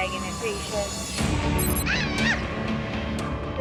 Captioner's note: makes an animal call